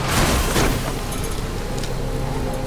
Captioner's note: car crashing